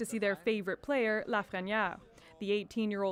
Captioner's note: speaking French